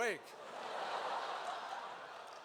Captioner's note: laughter